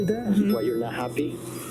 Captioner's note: recording playback